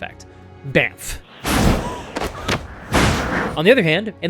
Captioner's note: bamf! bamf!